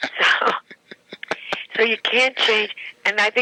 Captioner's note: laughing